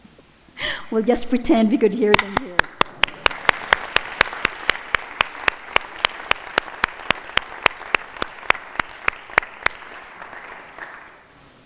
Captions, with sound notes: We'll just pretend we can hear it in here. (claps) (audience applauding)